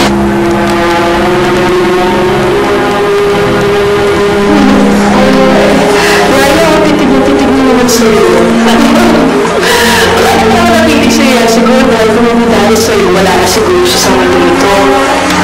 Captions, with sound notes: [sad music playing] Nanny, she’s staring at you again. [laughs] She always stares at you. Maybe because if not for you, she might not be in this world anymore.